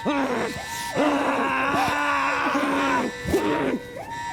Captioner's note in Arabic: أنين وصراخ على حدٍ سواء